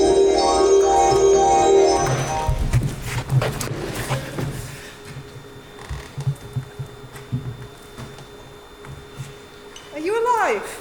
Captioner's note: magical noise